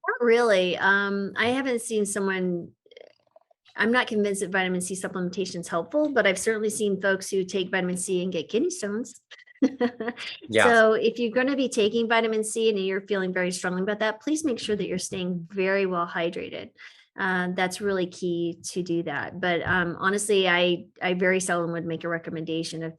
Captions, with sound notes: - Not really, I haven't seen someone, I'm not convinced that vitamin C supplementation is helpful, but I've certainly seen folks who take vitamin C and get kidney stones. (laughs) So if you're gonna be taking vitamin C and you're feeling very strongly about that, please make sure that you're staying very well hydrated. That's really key to do that, but honestly, I very seldom would make a recommendation